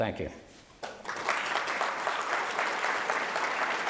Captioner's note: applause